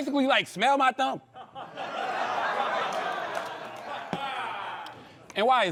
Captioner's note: laughter